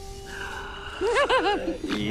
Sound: Charlie giggles

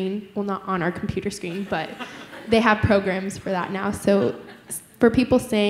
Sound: laughter

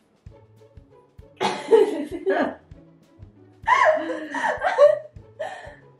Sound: both laugh

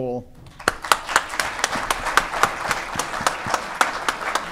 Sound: audience applauding

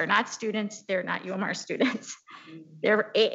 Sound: chuckles

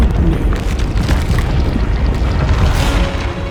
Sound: ice cracking

